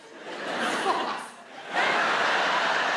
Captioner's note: audience laughs